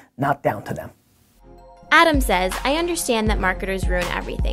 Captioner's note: voiceover